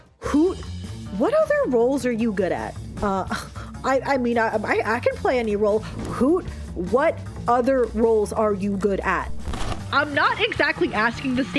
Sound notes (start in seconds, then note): 3.0 In Hoot's voice; 9.4 sfx: VHS tape insert & whine